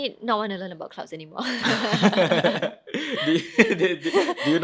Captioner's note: both laughing